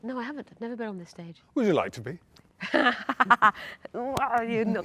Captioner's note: laughs